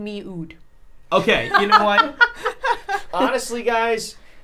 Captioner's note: laughs